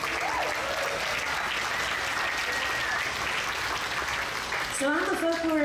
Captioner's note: audience cheers; audience applauds